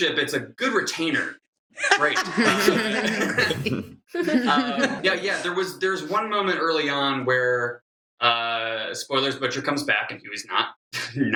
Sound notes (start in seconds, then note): 1.8 laughter